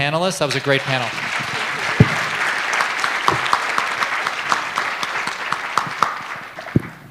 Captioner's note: applause